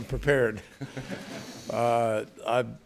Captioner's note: laughter